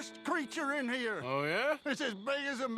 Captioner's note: mocking